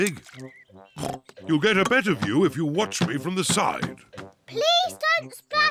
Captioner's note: oinks